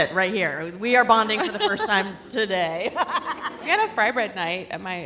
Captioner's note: laughs